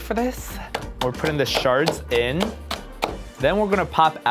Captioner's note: chopping